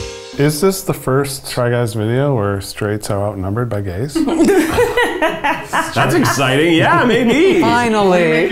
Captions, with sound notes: - Is this the first Try Guys video where straights are outnumbered by gays? (laughing) - That’s exciting! Yeah, maybe! - Finally!